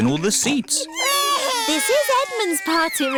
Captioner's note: babies crying